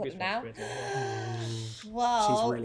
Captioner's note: gasp